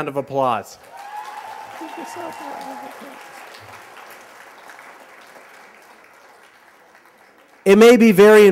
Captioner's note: applause